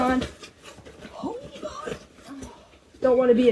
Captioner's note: strained